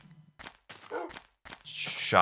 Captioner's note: woof!